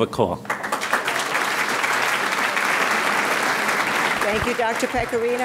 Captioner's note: audience applauding